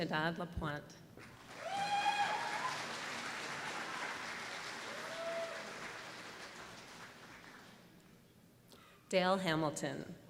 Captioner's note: applause